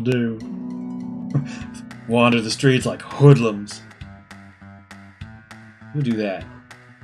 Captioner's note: chuckles